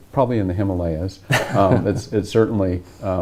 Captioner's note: laughs